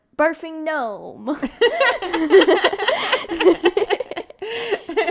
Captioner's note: both laughing